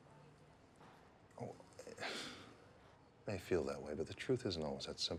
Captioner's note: sighs